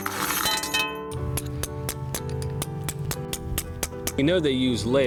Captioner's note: rapid tapping